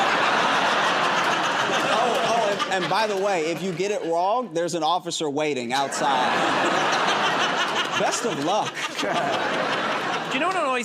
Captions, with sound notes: [ Laughter and applause ] "Oh, oh, and by the way, if you get it wrong, there's an officer waiting outside." [ Laughter ] "Best of luck." [ Laughter ]